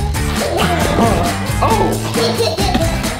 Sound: upbeat music; giggles; farts; giggling

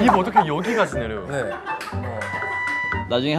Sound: haha

